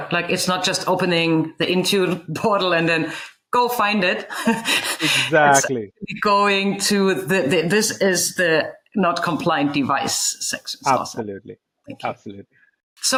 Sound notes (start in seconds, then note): 4.2 laughs